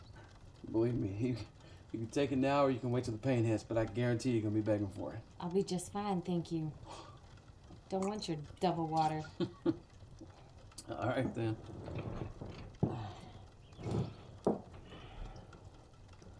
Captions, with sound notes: - Believe me, you can take it now or you can wait till the pain hits, but I guarantee you're gonna be begin' for it. - I'll be just fine, thank you. Don't want your devil water. (Tom laughs) - (laughs) All right, then.